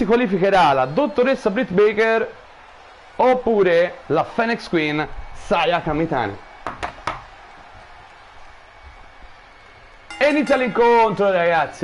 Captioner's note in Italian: Applauso